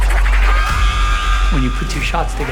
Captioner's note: intense music; zombie screeching